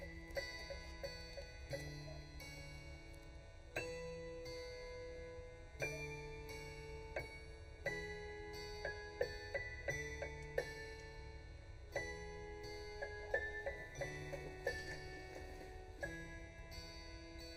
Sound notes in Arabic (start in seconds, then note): 0.0 دقات الأجراس